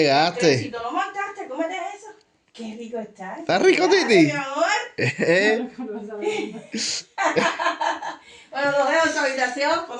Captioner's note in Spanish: risas